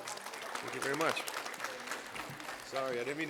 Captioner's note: applause